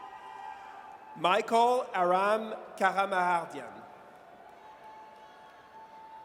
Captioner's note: audience cheers